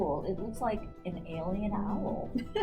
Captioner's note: laughs